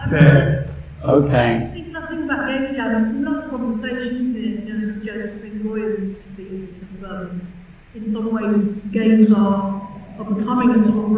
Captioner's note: laughter